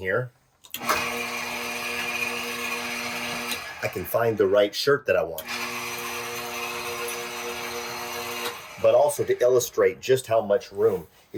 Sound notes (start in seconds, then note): 0.7 motor whirring